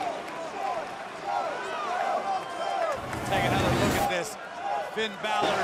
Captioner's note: crowd cheering